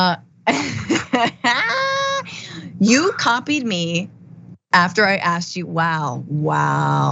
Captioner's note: laugh